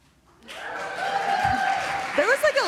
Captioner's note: applause